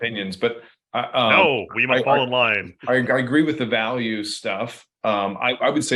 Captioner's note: laughs